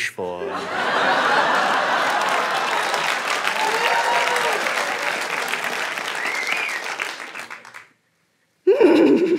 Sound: cheering

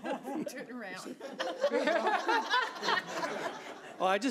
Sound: laughs

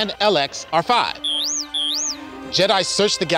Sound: beeping

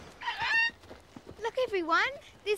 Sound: bird squawks

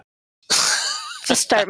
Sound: laughter

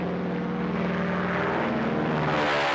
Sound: airplane Noises

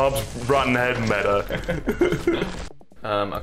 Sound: both laughing

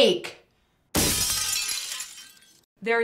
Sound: glass Smashing Sound Effect

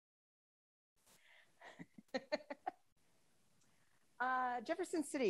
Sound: laughs

